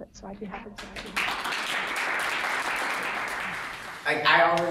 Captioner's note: audience applauds